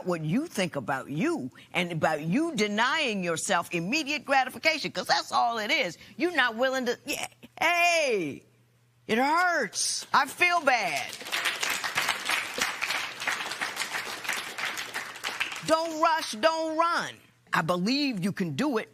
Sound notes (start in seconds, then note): 10.5 applause